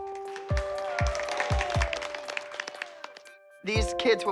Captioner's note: applause